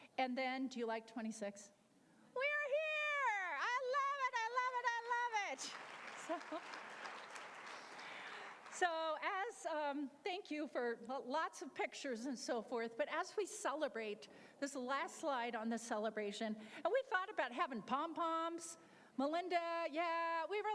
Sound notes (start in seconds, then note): 6.8 applause